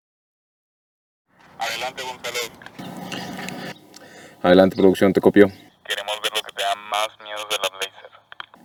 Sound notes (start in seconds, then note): 1.4 on the radio